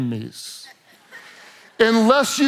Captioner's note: congregation laughs